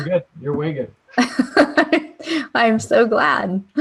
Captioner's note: laughter